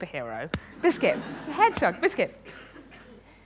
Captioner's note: laughter